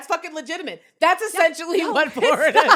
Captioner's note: laughs